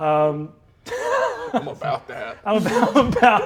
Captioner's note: Brennan laughs